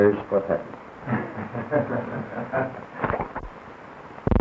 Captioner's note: off screen laughter